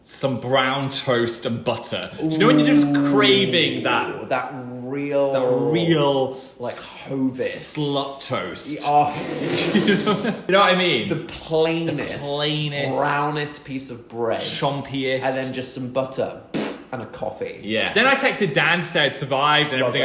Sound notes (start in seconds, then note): 9.6 laughter